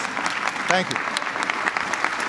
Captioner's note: applause